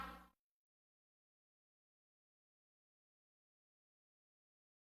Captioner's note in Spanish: silencio